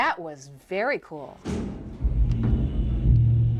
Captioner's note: door rumbling